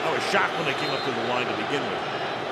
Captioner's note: booing